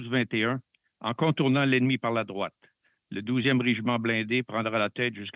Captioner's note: speaking French